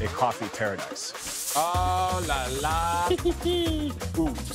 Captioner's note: giggles